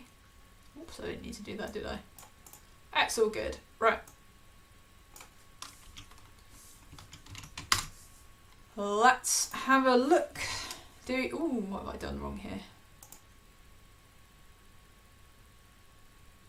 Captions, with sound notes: Absolutely need to do that, did I? That's so good, right. (keyboard clicking) Let's have a look. Oh, what have I done wrong here?